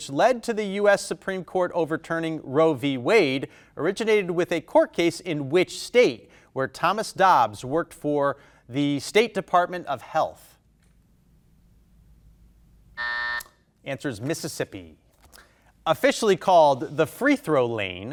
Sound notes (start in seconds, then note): 12.9 buzzer buzzing